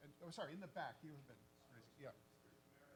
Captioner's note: faintly speaking